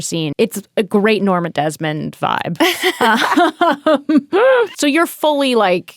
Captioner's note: laughing